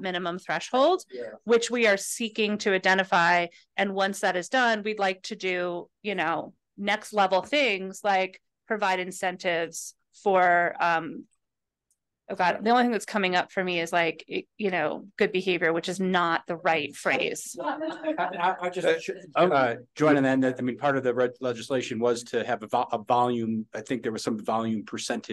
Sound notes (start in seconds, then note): 17.6 laughter